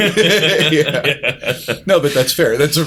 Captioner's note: laughter